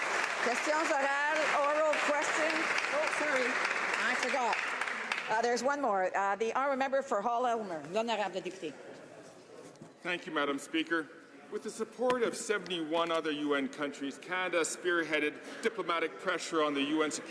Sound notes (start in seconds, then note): 0.0 some Applause; 6.1 speaking French